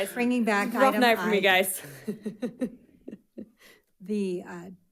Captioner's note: chuckles